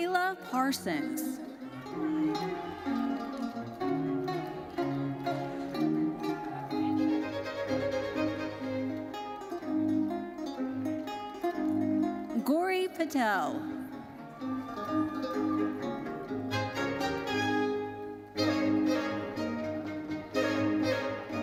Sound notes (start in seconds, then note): 0.0 lively uplifting music continues; 1.6 audience cheering; 4.7 lively uplifting music continues; 14.1 audience cheering; 17.1 lively uplifting music continues